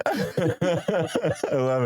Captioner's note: laughing